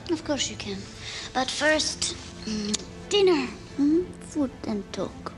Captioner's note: <i> kisses</i>